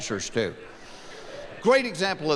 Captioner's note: laughing